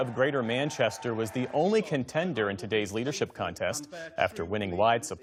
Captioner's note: cheers and applause